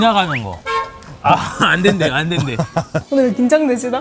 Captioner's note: honk; the honking